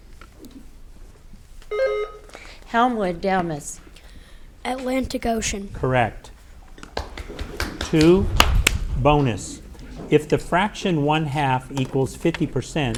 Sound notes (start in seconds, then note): 1.7 button buzzing; 7.0 audience applauding